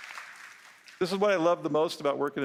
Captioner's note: applause